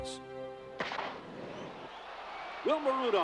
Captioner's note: gun firing and crowd cheering